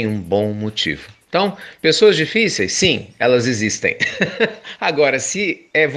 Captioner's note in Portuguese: risos